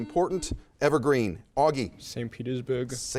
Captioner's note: buzzer chimes